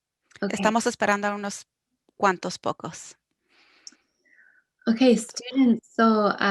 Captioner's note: speaking foreign language